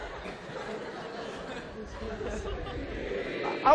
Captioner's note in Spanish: estudiantes contando en el fondo; risas